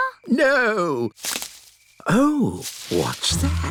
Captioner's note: rustling